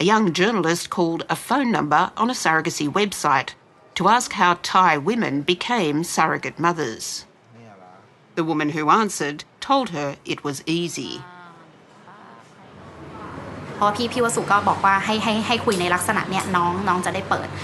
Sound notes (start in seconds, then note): 14.9 speaking Thai